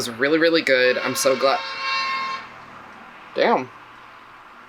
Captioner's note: loud honk